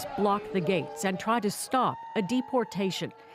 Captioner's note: chanting